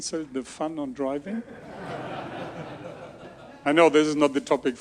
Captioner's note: audience laughs